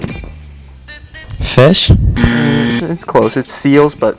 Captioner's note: buzzer buzzes